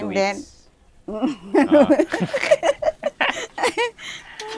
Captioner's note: laughs